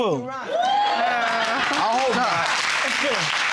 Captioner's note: audience applauding